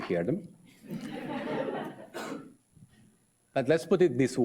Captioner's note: audience laughs